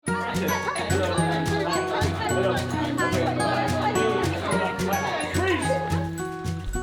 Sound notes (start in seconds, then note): 0.0 crowd noise